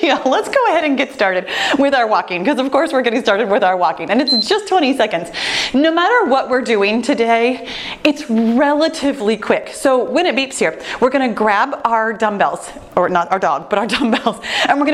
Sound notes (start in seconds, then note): 4.2 timer beeping